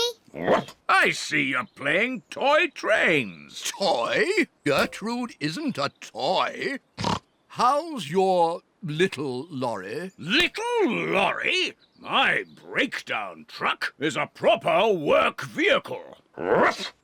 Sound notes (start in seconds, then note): 7.0 snorts